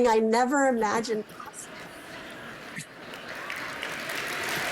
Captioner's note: laughter; applause